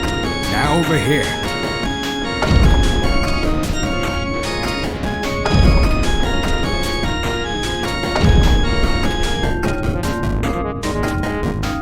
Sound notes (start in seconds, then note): 2.5 banging continues